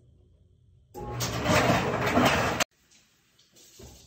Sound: dryer tumbling

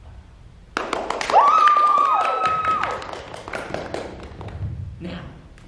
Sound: clapping

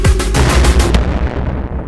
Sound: explosion

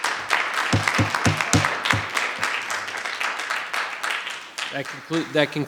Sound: audience applause; audience applause continues; gavel pounding

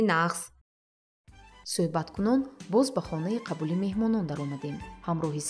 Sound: journalist narrating in tajik

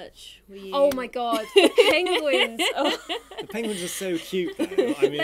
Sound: laughing

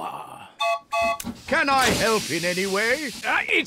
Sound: toots horn

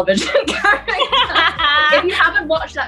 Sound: laughter

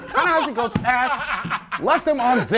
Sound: laughter

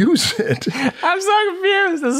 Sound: laughter

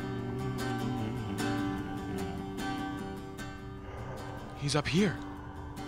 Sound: mellow guitar music; zombies groaning

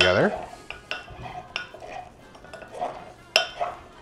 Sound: glass tinkling

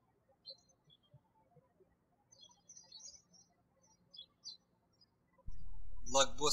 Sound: birds chirping

